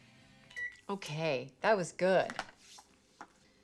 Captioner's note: tv remote clicks